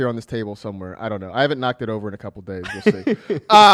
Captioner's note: laughs